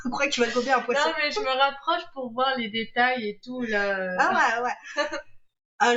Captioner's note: laughs